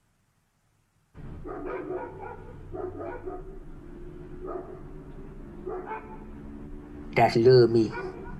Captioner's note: silence; dogs barking